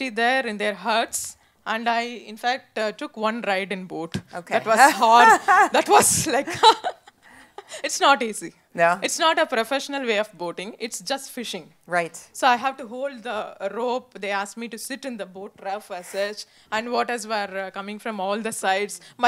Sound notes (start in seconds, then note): 4.8 laughter